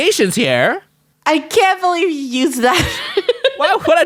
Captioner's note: laughs